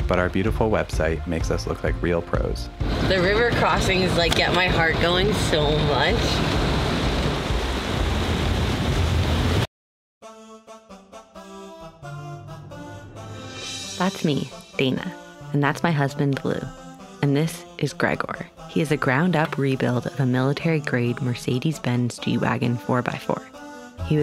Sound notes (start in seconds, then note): 7.1 splashing; 10.3 upbeat music